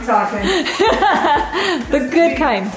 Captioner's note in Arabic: يضحك